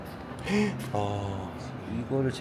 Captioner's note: gasps